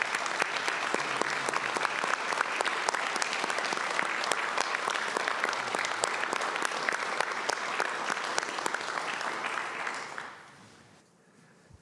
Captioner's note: applause